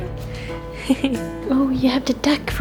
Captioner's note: laughter